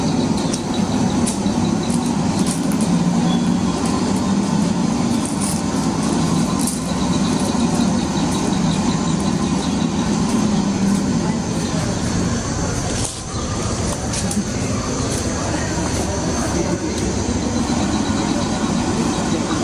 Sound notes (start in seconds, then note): 0.0 background: birds, water, footsteps on river bank; 13.3 background: birds, water, footsteps on river bank; 17.3 background: birds, water, voice softly in background